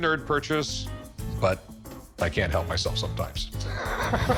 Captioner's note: laughs